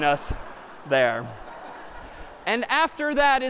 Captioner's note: laughter